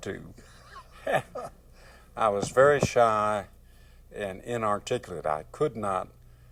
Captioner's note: laughter